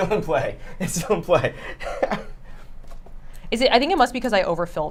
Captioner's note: laughs